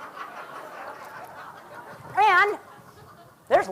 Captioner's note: laughter